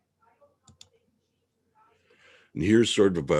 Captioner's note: mouse clicking